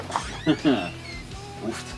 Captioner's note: laughing